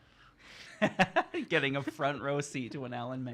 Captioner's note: laughing